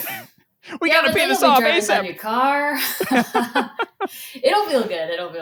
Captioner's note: both laughing